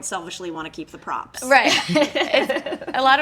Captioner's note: laughing